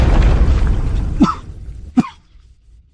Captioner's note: cough, cough